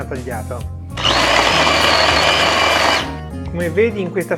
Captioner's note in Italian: rumore del tritatutto